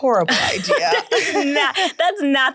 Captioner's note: laughing